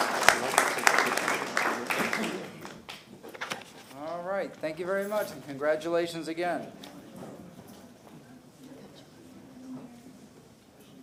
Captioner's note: applause